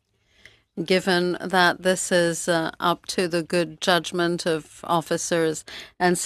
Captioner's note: speaking French